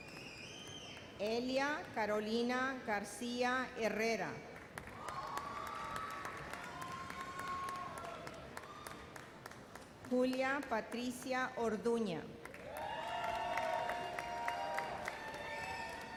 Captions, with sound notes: Elia Carolina Garcia Herrera. (audience cheers) Julia Patricia Orduna. (audience cheers)